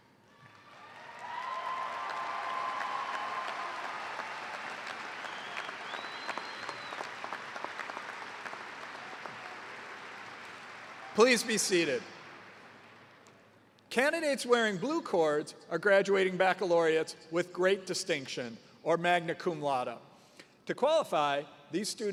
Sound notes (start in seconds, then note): 7.3 cheers and applause